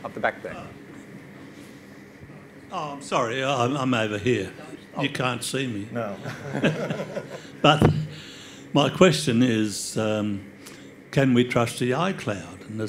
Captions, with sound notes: At the back there. - Oh, sorry, I'm over here. You can't see me. - No. (all laugh) - My question is can we trust the iCloud?